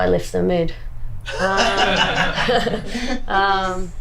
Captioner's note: laughs